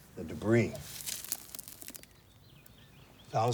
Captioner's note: dirt crumbles